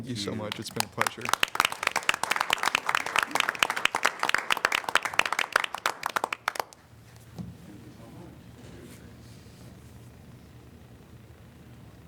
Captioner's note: applause